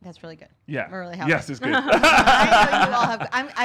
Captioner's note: both laughing